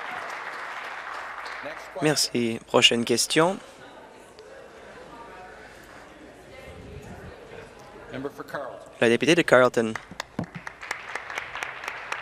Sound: applause

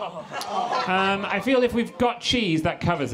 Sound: audience groans

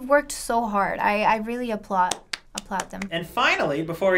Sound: clap

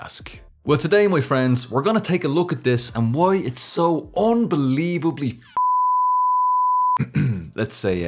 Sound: ahem

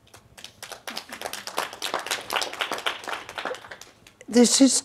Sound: audience applauding

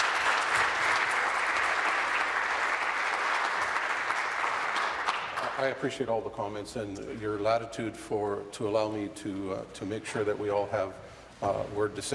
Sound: applause

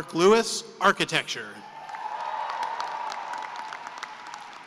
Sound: cheering and applause

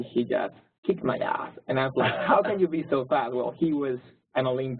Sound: laugh

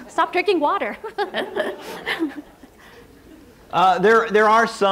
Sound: laughs

